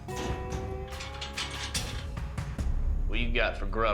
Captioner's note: locking cell door